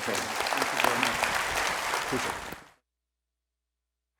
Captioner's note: audience applauds